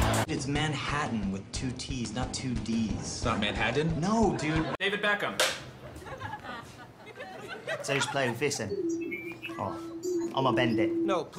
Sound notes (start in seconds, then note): 5.4 snap; 8.5 robotic bleeps